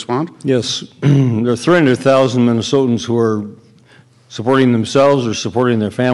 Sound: clears throat

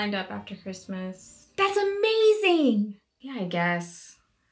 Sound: regular pitch

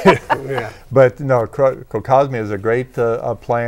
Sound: laughing

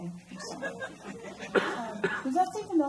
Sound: laughing

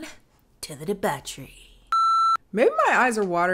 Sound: frame beeps

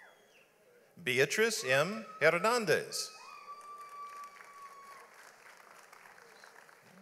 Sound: audience applauds

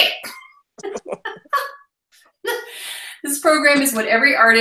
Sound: laughing

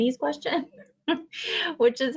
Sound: laughs

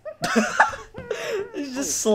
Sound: laughing

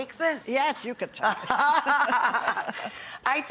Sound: laughing

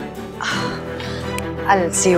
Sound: Poonam gasps

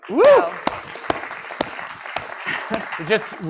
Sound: applause

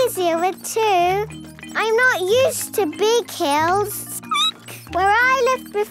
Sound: squeaking

